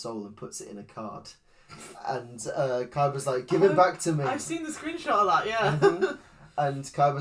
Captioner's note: laughs